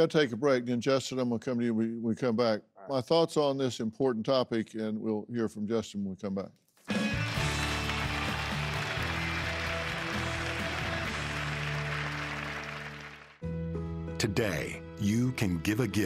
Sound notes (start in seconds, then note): 10.5 crowd applauding